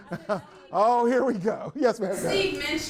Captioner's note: everyone laughs